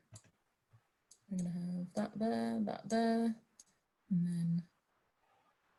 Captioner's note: humming